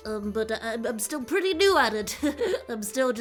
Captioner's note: laughs